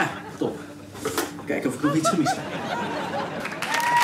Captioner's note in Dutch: applaus